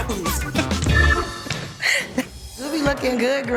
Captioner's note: laughing